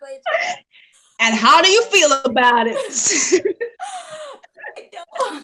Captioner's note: laughs